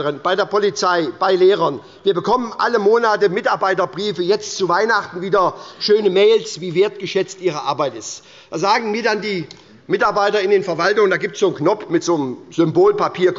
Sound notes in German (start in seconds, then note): none